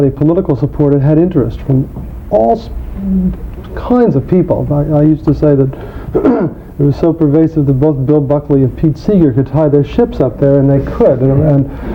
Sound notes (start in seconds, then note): 6.1 clearing throat